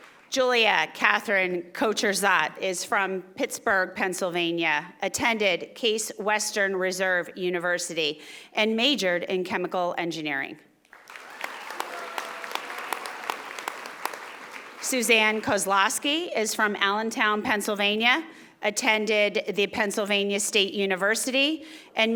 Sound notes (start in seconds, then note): 0.0 audience applauding; 10.9 audience applauding